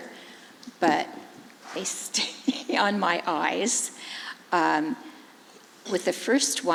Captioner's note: laughs